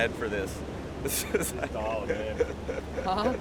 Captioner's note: laughs